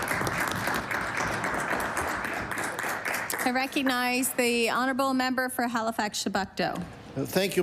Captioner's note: applause